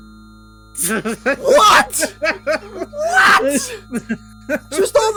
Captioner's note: laughs